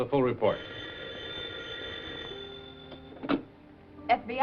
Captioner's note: phone ringing